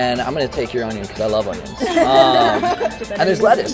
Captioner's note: laughing